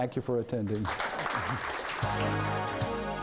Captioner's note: clapping; upbeat music